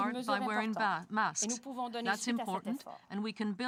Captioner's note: speaking french